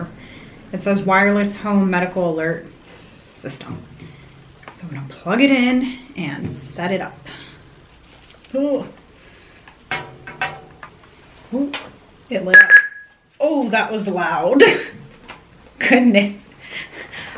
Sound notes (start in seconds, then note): 12.5 loud beeping